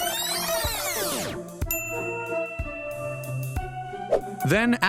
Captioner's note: bell dings